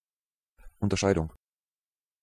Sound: fast Pronunciation

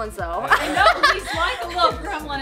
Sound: laughs

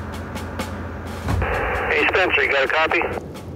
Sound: walkie-talkie static

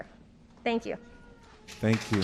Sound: applause

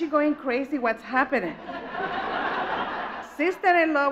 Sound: audience laughs

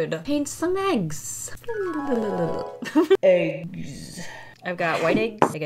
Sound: mimics magic tune and laughs

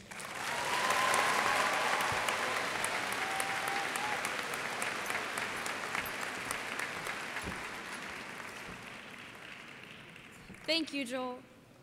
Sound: applause

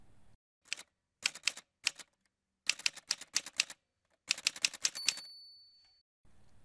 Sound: typewriter sounds

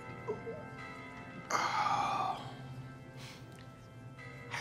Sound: sighs

